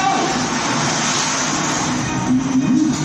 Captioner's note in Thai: เสียงน้ำสาด